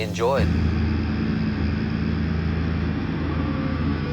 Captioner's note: drone sound